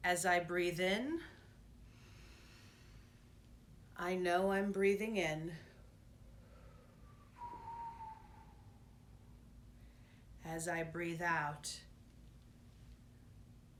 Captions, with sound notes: As I breathe in, (inhaling) I know I'm breathing in. (exhaling) As I breathe out,